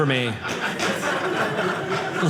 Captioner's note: audience laughing